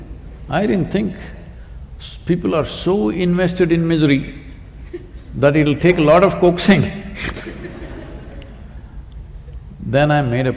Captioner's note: laughter